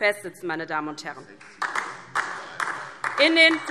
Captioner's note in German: Beifall DIE LINKE